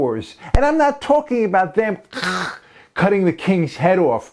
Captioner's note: chhh